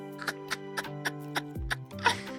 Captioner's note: laughs